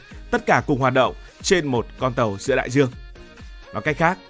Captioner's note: speaking